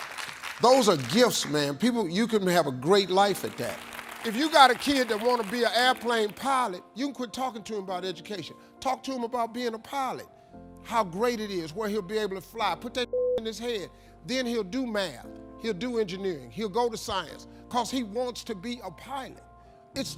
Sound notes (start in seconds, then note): 13.1 beep